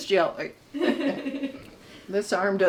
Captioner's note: crew member laughs